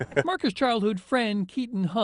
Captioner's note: chuckles